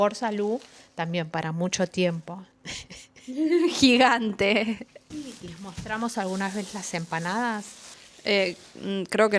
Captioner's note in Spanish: risas